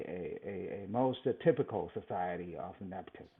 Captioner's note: laughs